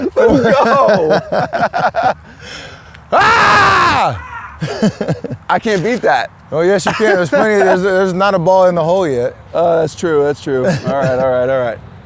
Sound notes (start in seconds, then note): 0.0 laughs; 3.1 screams; 4.7 laughs